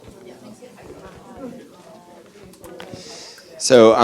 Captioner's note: audience chattering